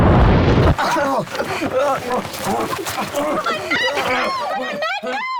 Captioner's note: grunting